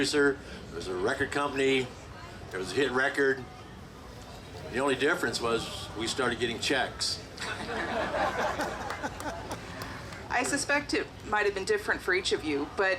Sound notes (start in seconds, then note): 7.4 group laughing